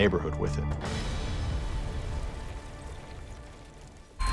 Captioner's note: sediment crackling